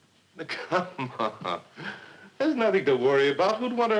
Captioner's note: laughing